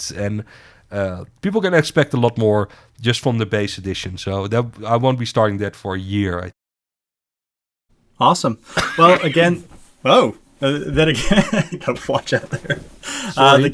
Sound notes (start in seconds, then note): 8.7 coughing